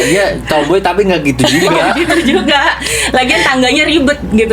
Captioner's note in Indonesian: tertawa